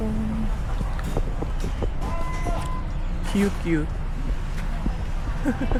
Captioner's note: risas